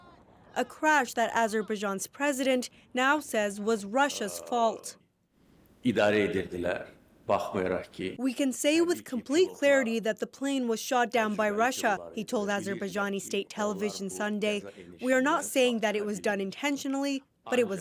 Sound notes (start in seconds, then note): 8.1 speaking alternate language